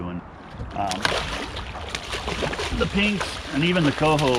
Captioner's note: fish splashing